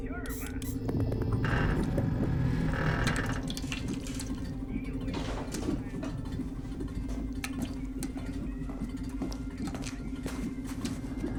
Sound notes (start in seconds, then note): 0.0 oil can squirting; 1.9 creaking; 3.0 dripping